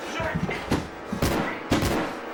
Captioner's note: yelling; gun firing